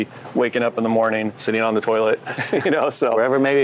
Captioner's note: laughs